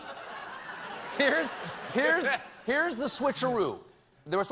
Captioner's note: laughter